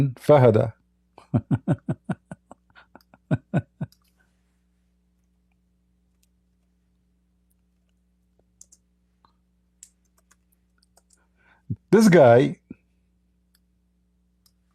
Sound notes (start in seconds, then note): 1.2 Ketawa